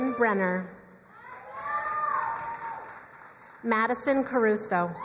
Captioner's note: crowd cheering and applauding